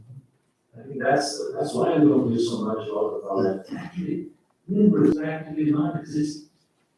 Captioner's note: faintly speaking